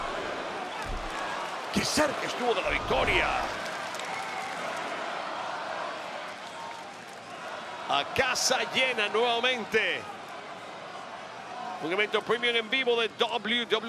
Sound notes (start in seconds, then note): 3.1 applause